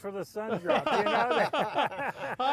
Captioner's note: all laugh